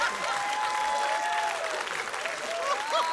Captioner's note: laughter, applause; whooping